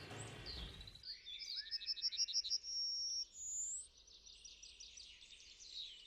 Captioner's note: dalekie śpiewy ptaków